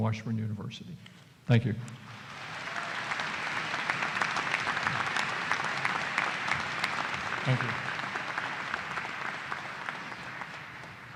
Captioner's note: applause